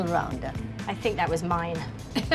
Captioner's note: chuckles